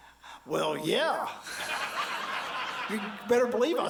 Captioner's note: audience laughs